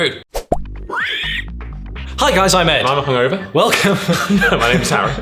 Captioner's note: laughing